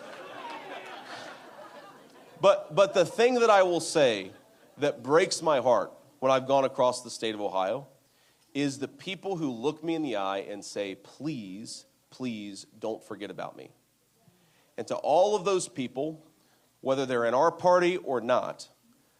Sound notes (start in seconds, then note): 4.1 laughter